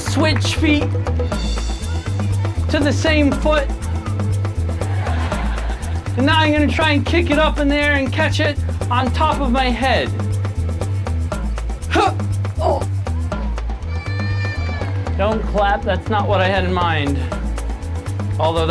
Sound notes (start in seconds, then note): 0.0 audience applauding; 4.7 audience laughing; 11.9 grunts